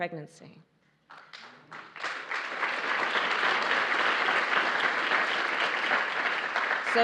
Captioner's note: applause